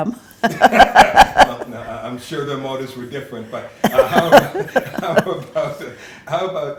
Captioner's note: laughs